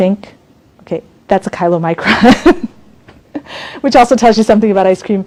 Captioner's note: laughs